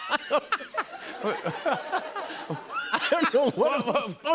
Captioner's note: laughter